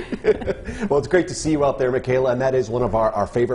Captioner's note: laughter